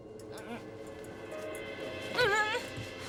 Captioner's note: grunting